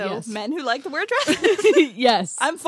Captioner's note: laughs